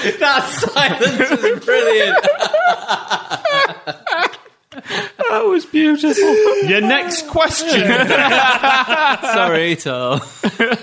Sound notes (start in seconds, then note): 2.2 laughter; 7.4 laughter; 10.5 laughing